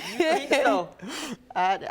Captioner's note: laughing